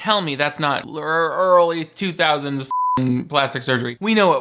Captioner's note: beep